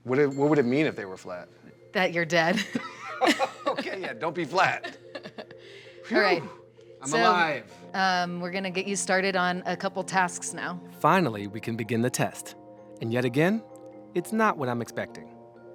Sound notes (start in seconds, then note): 2.5 both laughing